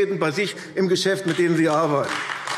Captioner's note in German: Beifall AfD